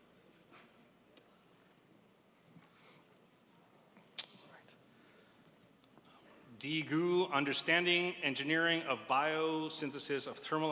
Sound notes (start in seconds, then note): none